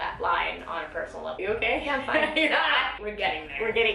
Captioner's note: laughs